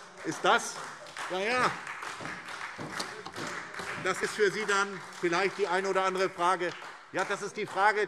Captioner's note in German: Beifall SPD und Freie Demokraten